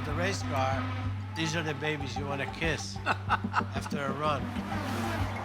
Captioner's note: laughs